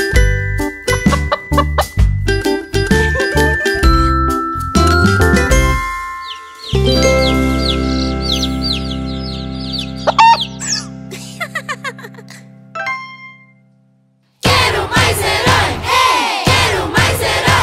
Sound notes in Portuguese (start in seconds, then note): 0.0 Som de galinhazinha; 0.0 Som de pintinho; 6.2 Som de pintinho